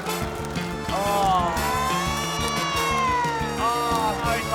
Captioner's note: all groan in disgust